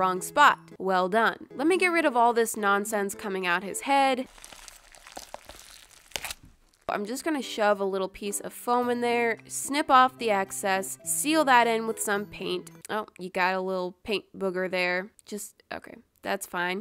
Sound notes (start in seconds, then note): 4.2 unnecessary ripping noise